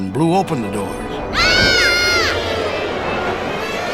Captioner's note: screaming